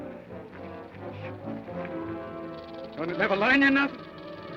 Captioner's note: snake rattles